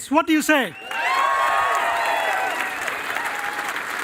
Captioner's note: cheering and applause